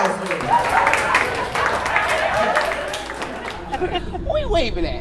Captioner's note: audience cheering